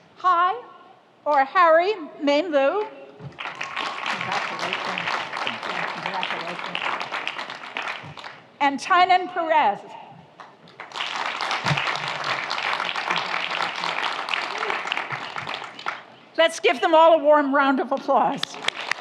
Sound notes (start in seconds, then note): 3.3 audience applauds; 10.4 audience applauds